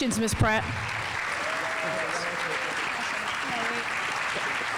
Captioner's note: audience applauding